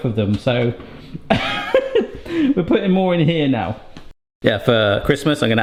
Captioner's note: laughs